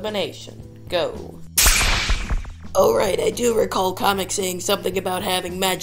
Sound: magic poof

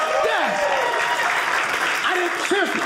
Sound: audience cheering

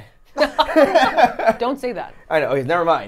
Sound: everyone laughs

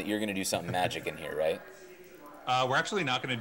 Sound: chuckling

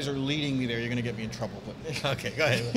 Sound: laughs

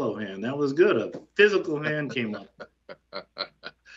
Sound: laughter

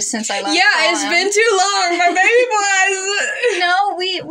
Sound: blubbering

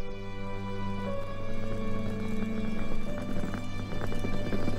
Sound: the sound of a wheeled suitcase across gravel

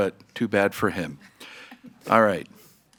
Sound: members laughing

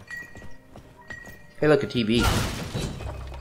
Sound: bonk

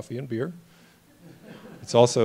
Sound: laughter

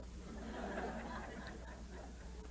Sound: laughter

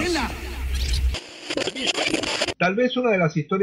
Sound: radio tuning noise

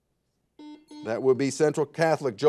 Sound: buzzer buzzes

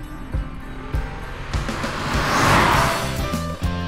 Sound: car revving; bright music

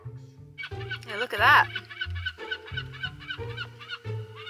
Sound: soft orchestral music; gull caws

